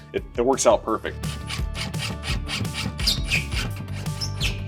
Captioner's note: tool whirring